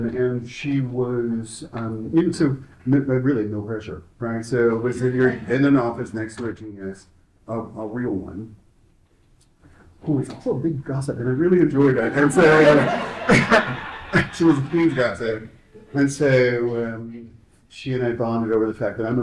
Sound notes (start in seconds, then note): 11.3 laughs